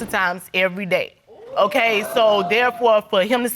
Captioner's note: audience exclaiming